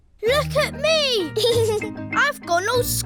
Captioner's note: giggles